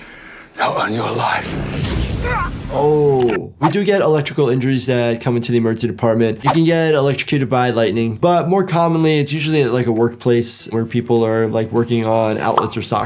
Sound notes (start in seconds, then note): 1.4 lightning crashing; 1.4 victim grunting